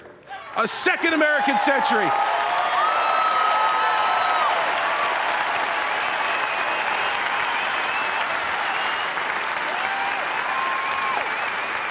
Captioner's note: applause